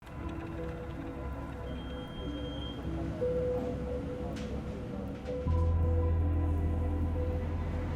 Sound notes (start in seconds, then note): 0.2 dramatic music; 1.6 electronic sensors beep